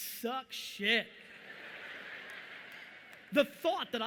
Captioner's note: audience laughing